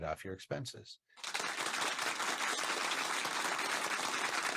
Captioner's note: hands clap